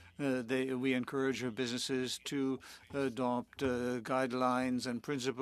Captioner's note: speaking French